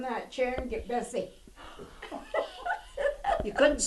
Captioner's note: laughter